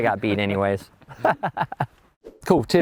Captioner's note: laughing